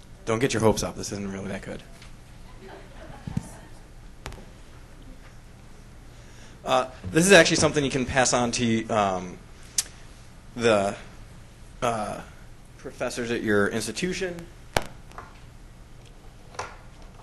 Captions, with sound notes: Don't get your hopes up, this isn't really that good. (laughs) This is actually something you can pass on to the professors at your institution.